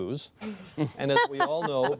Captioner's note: laughing